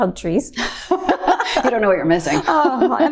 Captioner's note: both laughing